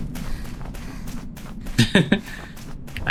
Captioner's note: laughs